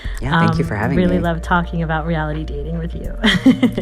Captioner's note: laughter